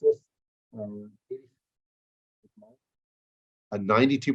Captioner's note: microphone fades